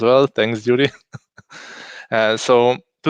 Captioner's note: laughing